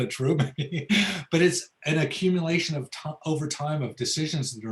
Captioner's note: laughs